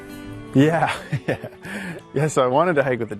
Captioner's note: laughs